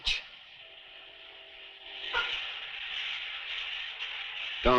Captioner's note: shower hissing